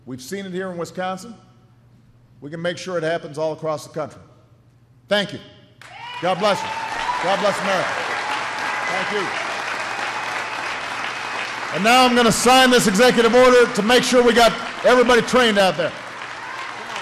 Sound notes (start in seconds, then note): 9.4 applause